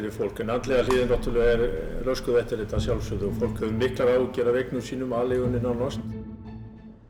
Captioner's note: speaking in Icelandic